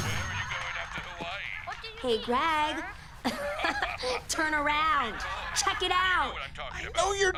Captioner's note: chuckles